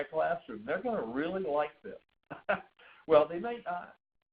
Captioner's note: chuckles